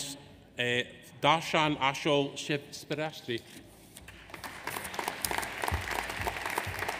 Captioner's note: audience applauds